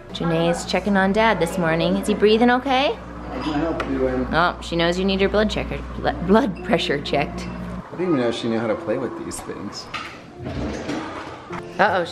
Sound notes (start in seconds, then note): 6.1 laughs